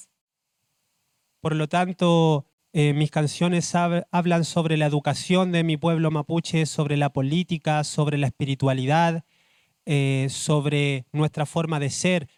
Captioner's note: speaking Spanish